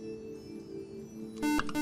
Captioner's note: buzzer